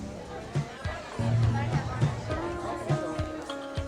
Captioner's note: people chattering